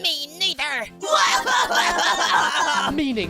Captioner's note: both crying